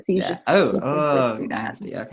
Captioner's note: groans